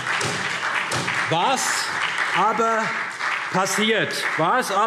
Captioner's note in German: Beifall SPD